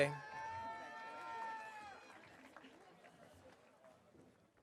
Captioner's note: audience cheering